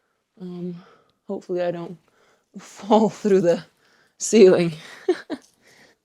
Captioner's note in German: lacht